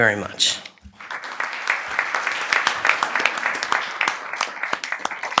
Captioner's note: applause